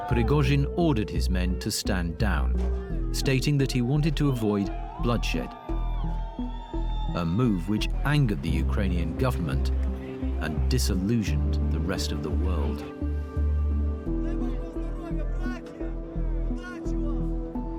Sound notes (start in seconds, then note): 6.2 people cheer